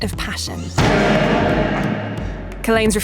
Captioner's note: loud banging